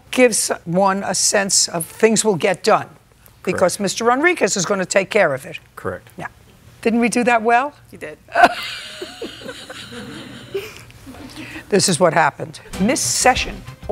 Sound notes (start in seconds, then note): 8.3 laughs